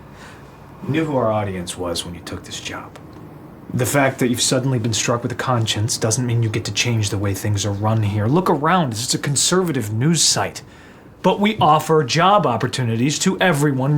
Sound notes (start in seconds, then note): none